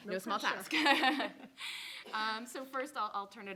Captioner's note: both laughing